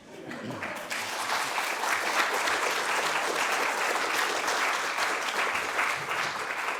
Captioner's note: applause